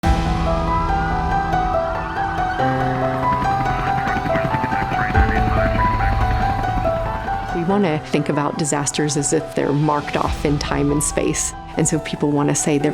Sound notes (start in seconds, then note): 1.4 <i>sirens wailing</i>; 4.0 chopper blade slapping